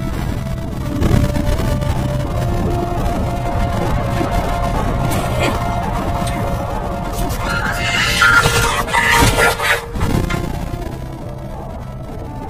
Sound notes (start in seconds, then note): 0.2 dark music plays; 5.1 cackles wildly